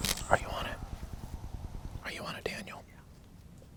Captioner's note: whispering